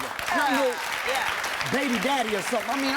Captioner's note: applause